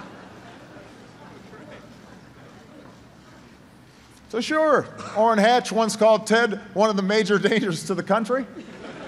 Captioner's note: laughter